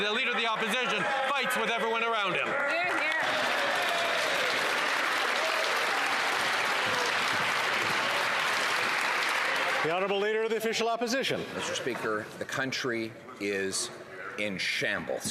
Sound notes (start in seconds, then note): 7.0 some Applause